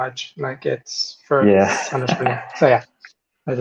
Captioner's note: laughs